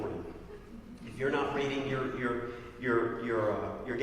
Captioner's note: laugh